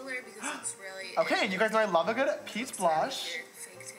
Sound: gasp of delight

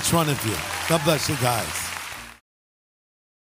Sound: audience applause

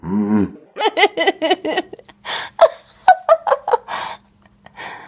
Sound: gremlin laughing

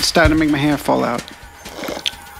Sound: slurps

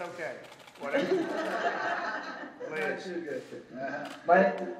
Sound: laughter

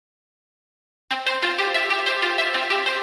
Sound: silence

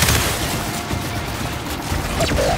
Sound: gunfire

